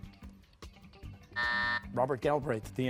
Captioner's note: buzzer sounding